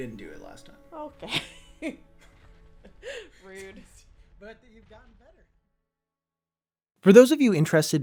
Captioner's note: laughs